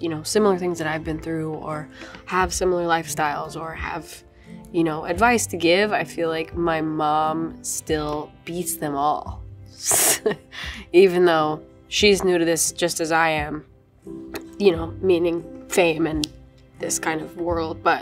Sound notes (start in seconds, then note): 9.9 chuckles